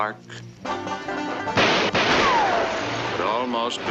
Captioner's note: lively banjo music; guns firing